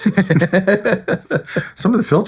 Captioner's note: laughing